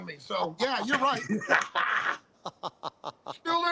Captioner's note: laughter